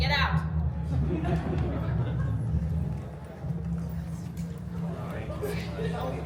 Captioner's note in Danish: publikumsmedlemmer ler